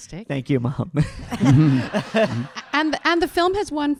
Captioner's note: audience laughing